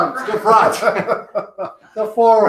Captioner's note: laughs